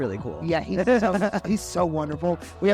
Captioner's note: laughter